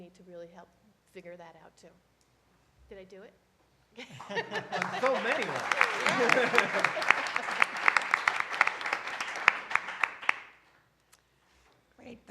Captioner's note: applause